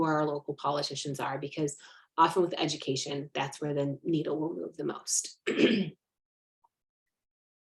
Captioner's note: clears throat